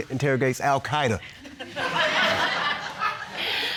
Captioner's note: audience laughing